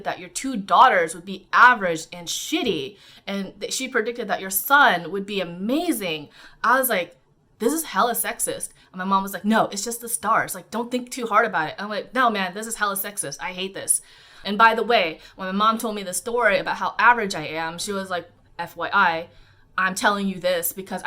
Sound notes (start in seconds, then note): none